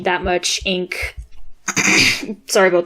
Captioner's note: clears throat